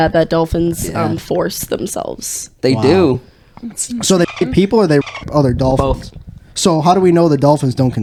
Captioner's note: beep